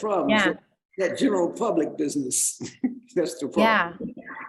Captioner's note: chuckles